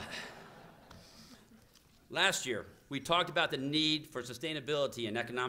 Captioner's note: laughter